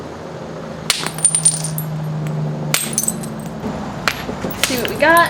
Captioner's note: sound of rock hitting rock and pieces falling onto hard surface